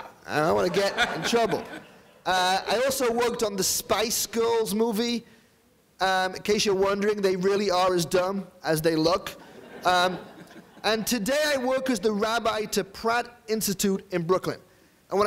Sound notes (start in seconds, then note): 9.4 audience laughing